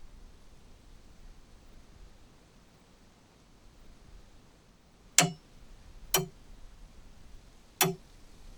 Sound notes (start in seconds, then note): 5.2 clock ticking